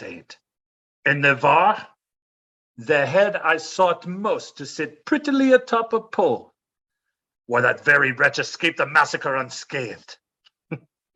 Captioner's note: laughs